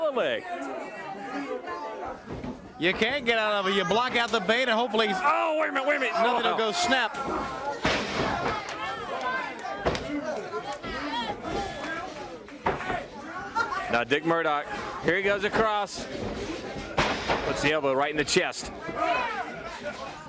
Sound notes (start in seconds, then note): 15.7 crowd chatter